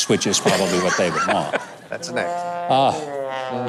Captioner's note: laughing